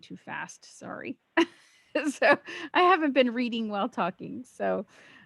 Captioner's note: laughs